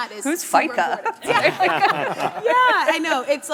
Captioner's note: people laughing hysterically